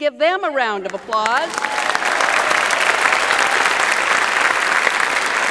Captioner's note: audience applauds